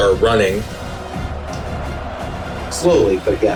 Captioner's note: crowd Noises